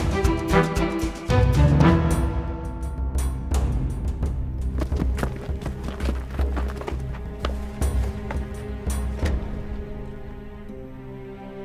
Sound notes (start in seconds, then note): 4.7 footsteps